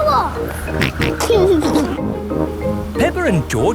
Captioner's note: snorts and giggles